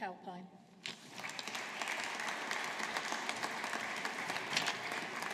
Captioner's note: audience applauding